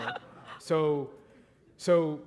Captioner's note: laughter